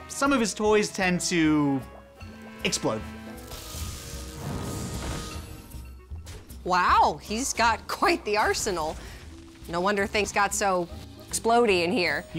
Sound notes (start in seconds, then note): 3.4 energy crackling